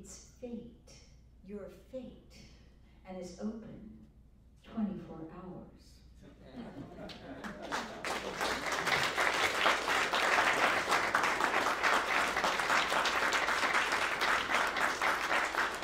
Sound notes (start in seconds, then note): 6.4 laughter and applause